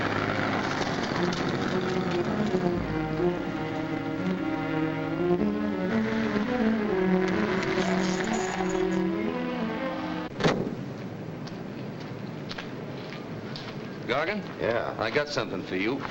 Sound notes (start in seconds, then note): 0.1 motor revs; 3.6 dramatic music; 10.3 car door slams